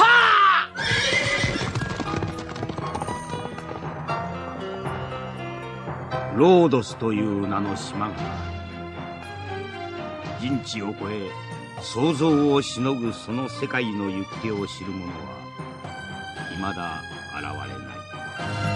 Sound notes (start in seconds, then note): 0.1 SFX: horse neighing; 0.7 SFX: horse galloping away